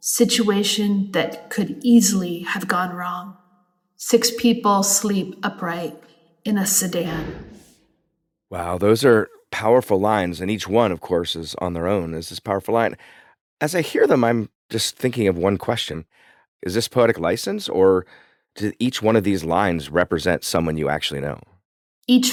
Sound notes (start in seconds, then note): 7.0 door bangs shut